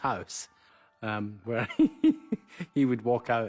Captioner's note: chuckles